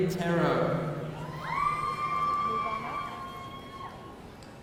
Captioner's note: audience cheering